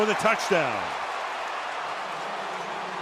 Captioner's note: cheering; pa announcement